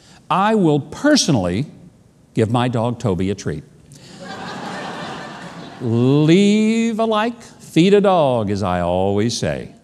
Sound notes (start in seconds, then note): 4.1 audience laughs